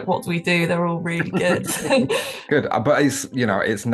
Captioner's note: chuckles